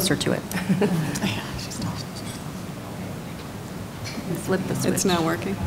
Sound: laughter

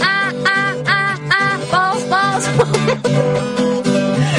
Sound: laughs

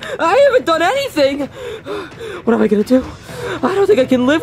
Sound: panting dramatically

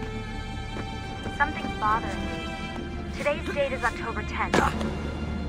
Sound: Lucy through radio

